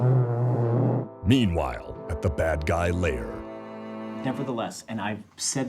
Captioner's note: voiceover